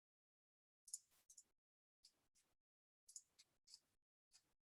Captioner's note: mouse clicking